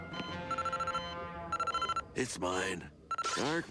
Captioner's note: communicator rings